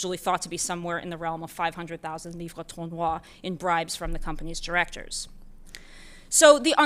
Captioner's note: french